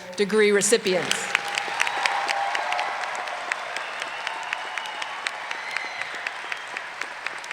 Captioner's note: applause and cheering